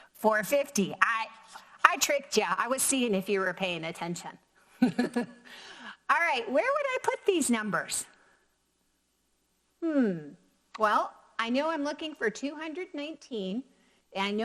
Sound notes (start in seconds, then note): 4.8 laughs